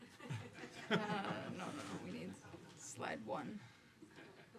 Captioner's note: audience laughing